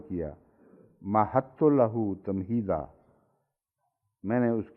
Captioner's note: Arabic